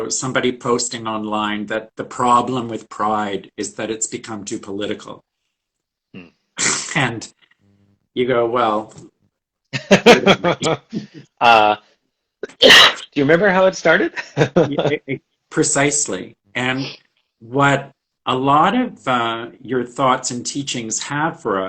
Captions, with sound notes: somebody posting online that the problem with pride is that it's become too political and (laughs) and you go, well... - (laughs) (coughs) Do you remember how it started? - Precisely. And what a lot of your thoughts and teachings have for us